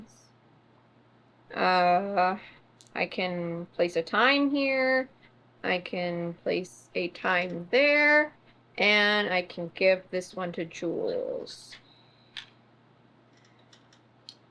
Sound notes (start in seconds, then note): none